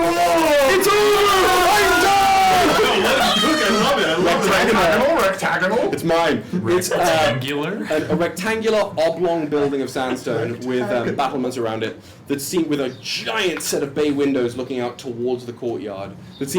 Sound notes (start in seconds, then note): 0.0 cheering